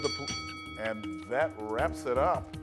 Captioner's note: bell rings